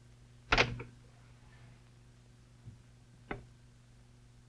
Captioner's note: phone clanking